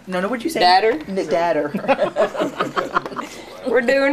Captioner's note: laughing